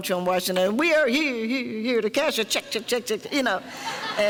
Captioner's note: mimicking echoing microphone